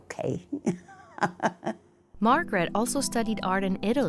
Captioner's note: laughter